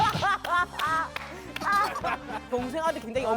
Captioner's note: cracking up